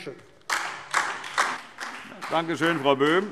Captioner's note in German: Beifall DIE LINKE und vereinzelt SPD